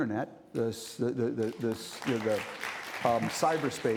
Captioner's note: stammering; audience applauding